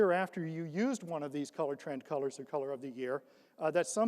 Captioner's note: none